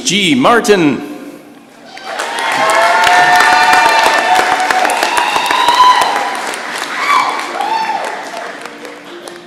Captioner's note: cheering and applause